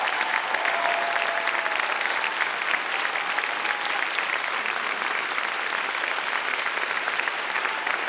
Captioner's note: applause